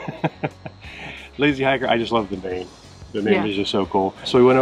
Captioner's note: laughing